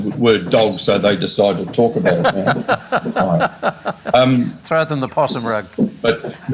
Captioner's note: laughs